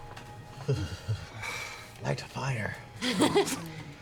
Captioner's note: sighs; laughs